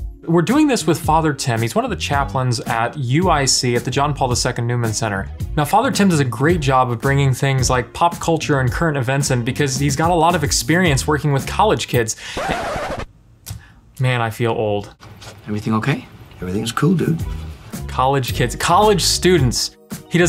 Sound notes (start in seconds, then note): 12.4 record rewinding